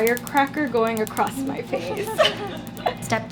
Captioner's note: laughs